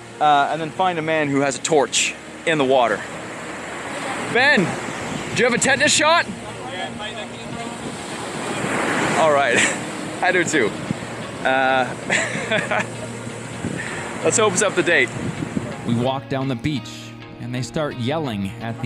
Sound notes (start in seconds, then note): 11.4 laughs